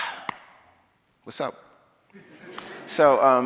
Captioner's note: audience laughing